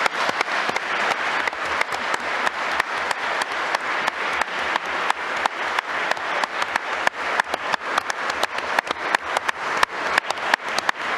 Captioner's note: applause